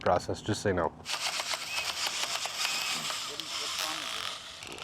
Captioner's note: drill whirring